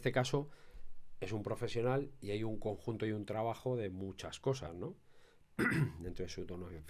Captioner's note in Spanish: carraspeo